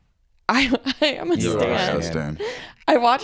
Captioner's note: laughs